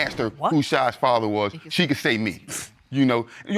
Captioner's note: scoffs